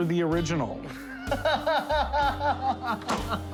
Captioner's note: laughing; slow clap